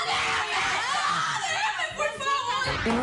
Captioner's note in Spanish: gritos